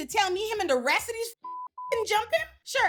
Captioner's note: beep